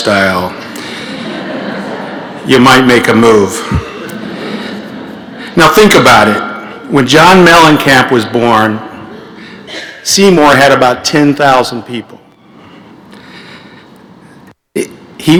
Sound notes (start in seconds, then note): 4.3 laughter